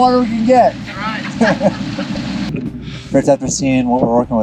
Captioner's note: laughter